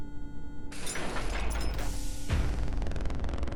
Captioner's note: objects banging; intense music